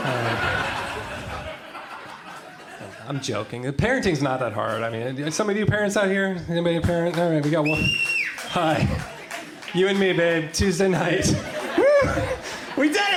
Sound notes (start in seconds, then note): 0.0 crowd laughs; 7.6 cheers